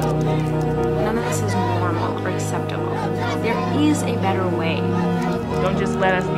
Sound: a crowd chants “No justice, no peace”; voice of a woman

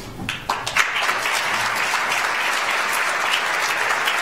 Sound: audience applauds

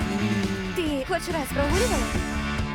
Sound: shrieking

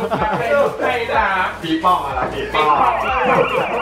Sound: make fun with siren sound

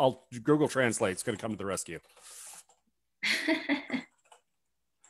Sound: chuckles

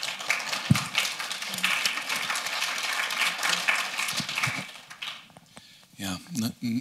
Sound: applause

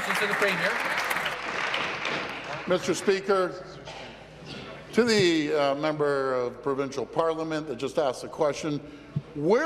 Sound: applause

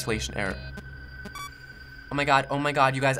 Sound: in game: system blips

